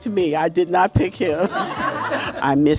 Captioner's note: laughing